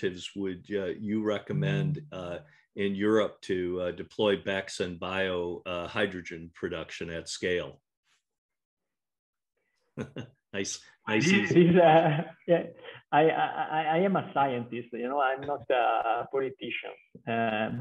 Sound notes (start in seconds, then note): 11.2 laughs